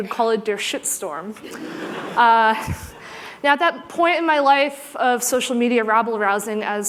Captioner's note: laughter